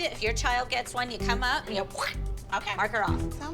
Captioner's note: squish noise